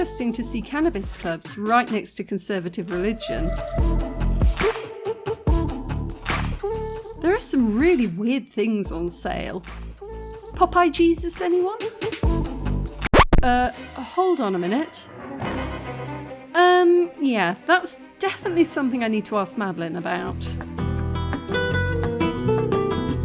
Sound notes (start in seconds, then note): 12.9 record scratch; 15.2 sinister music; 20.0 spanish guitar music